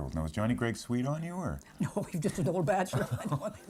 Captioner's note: chuckling